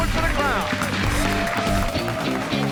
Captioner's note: cheers and applause